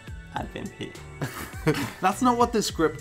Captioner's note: laughs